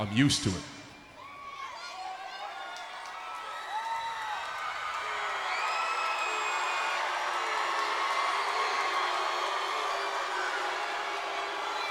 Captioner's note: applause